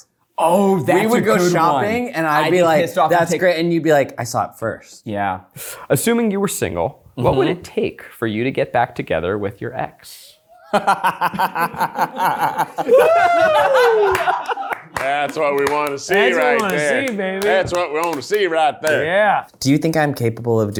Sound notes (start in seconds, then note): 13.1 people laughing